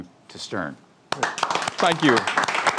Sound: people applaud

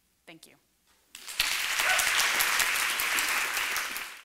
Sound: applause

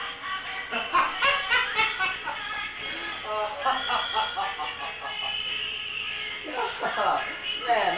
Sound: laughs boistrously

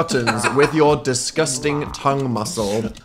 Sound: laughing

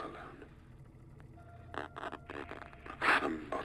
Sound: static buzz

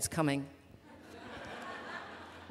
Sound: laughter

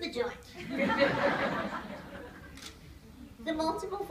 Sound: laughter

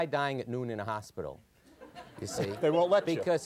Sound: audience laughter

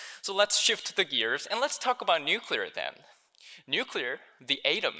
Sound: none

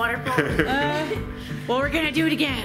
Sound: laughing

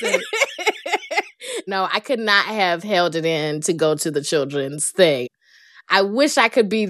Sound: laughter

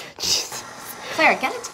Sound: mixer whirring

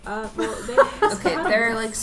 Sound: laughing

